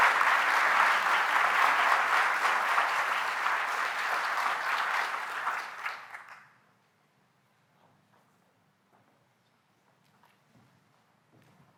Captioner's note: applause